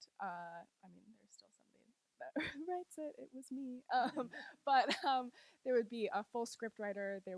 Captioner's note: laughs